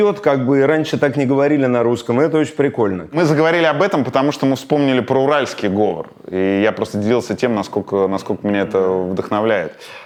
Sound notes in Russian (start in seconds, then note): none